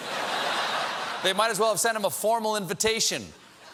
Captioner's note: laughter